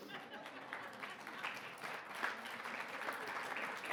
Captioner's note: audience clapping